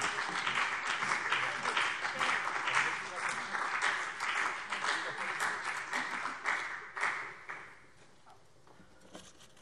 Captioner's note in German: Beifall CDU und BÜNDNIS 90/DIE GRÜNEN